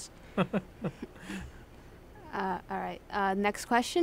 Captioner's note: laughs